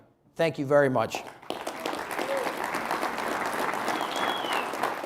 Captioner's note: audience applauding